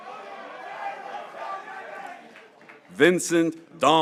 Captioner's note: graduates cheering